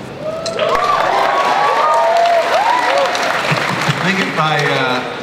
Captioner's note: audience cheering and applause